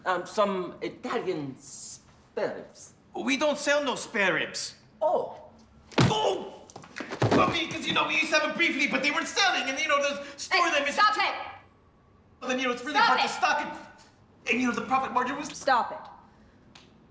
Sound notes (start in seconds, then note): 5.9 fist thudding; 6.2 uncle groaning